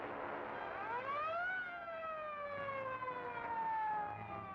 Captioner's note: siren blaring